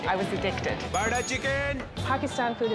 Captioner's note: bell dings